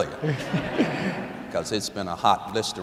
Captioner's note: laughter